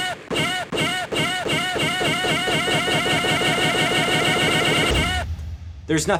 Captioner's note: gunshot, deer noises; deer noises get faster